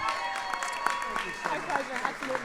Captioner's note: applause